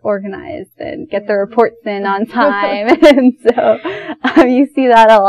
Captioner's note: both laugh